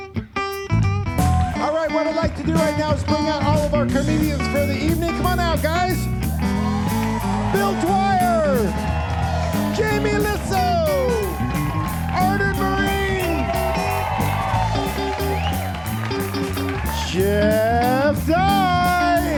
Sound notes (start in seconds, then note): 6.7 audience cheering and applauding; 13.9 audience cheering and applauding